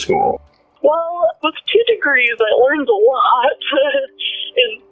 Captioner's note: chuckles